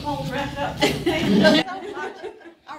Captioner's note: audience chuckling